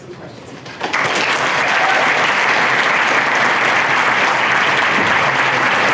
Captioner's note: applause